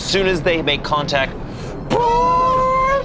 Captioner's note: imitates alarm